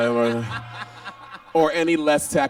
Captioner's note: laughs